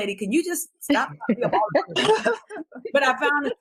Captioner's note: laughs